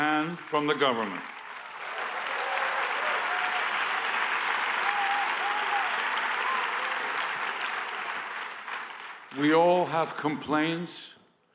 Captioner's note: applause